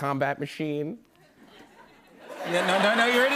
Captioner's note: laughter